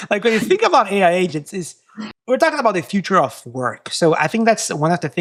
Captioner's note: laugh